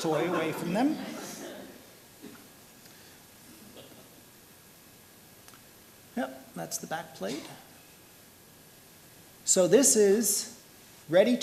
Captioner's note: laughter